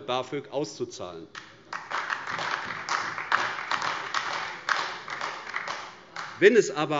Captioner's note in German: Beifall AfD